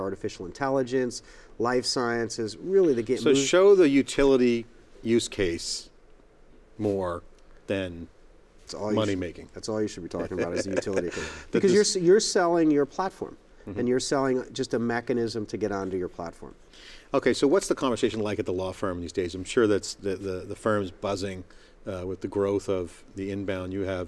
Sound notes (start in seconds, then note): 10.2 laughs